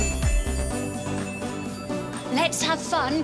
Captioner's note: magical chime